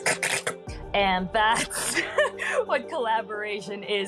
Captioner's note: mouth noises